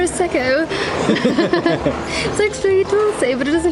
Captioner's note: both laughing